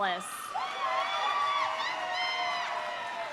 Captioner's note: audience cheering; audience applauding